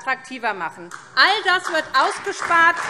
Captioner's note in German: Beifall SPD